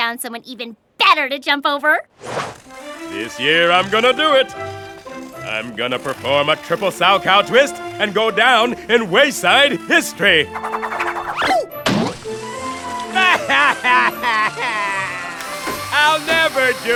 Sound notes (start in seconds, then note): 13.1 bursts into tears; 14.5 crying